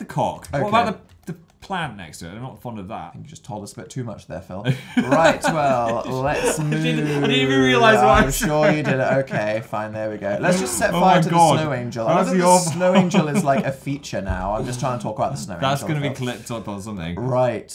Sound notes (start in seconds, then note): 4.7 laughs; 12.3 still laughing